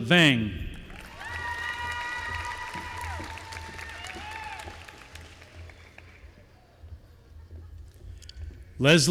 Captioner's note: applause